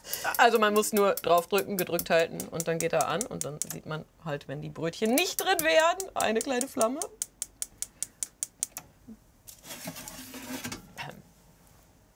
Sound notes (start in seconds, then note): 8.5 ticking sound